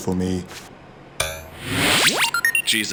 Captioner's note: electronic noises